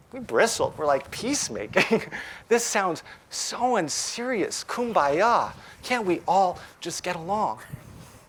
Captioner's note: laughs